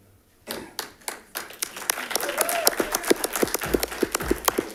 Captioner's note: audience clapping